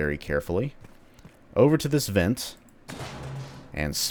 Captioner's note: smash